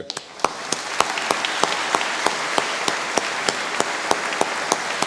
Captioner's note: applause